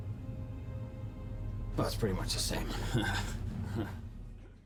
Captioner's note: chuckles